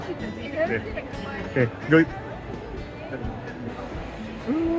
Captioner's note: people chattering